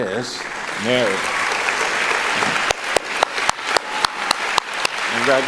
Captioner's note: applauding